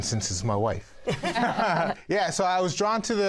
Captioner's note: laughter